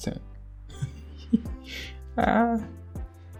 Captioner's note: laughs